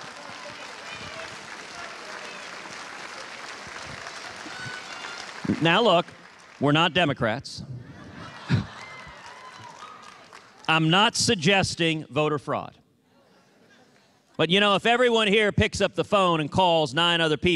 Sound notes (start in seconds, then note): 4.3 cheers and applause; 13.2 laughter